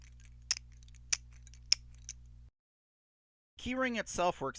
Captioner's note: plastic clicking and jangling